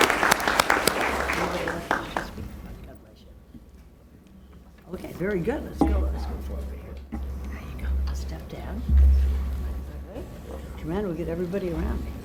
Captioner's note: applause